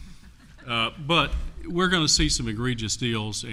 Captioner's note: laughter